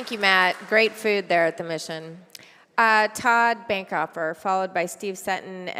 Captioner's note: applause